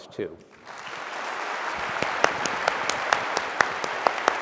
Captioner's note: applause